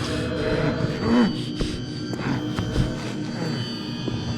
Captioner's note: grunting